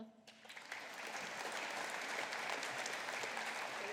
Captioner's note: audience applauding